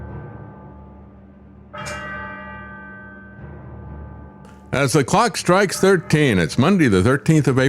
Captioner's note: bell Ringing